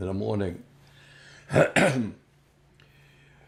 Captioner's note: coughing